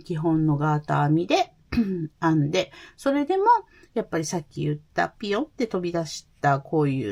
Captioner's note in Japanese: 咳払い